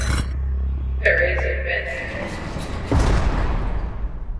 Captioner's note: echoing; jail door slams shut